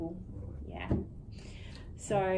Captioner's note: speaking faintly